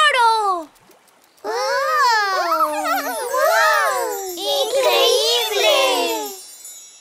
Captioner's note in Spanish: Risas